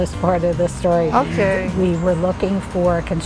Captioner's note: sighs